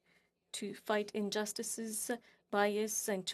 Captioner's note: speaking French